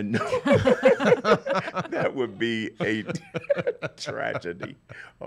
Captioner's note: laughs